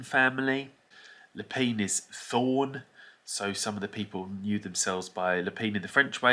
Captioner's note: in English